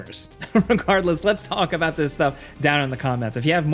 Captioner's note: laughs